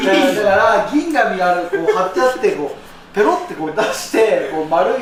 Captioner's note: laughs; laughs